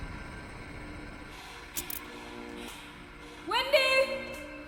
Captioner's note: lights buzzing